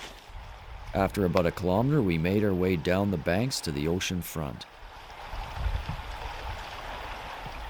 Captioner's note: waves crashing on the shore